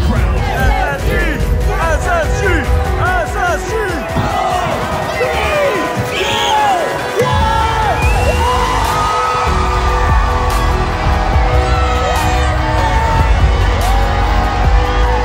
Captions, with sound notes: - SSG! SSG! SSG! - SSG! SSG! SSG! (people clamoring)